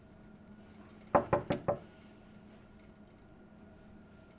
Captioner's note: door clunking